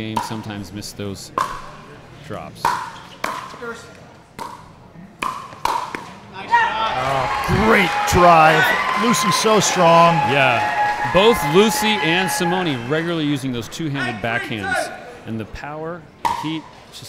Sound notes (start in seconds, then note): 4.3 ball bouncing; 8.0 audience cheering